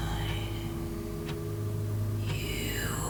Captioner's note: menacing voices continue